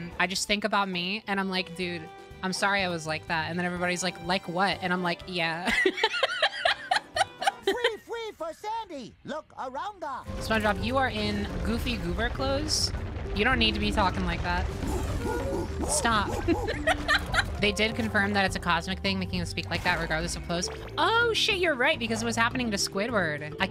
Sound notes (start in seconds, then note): 5.6 laughter; 15.2 SpongeBob Grunting; 16.2 laughter